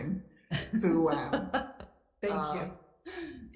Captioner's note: laughing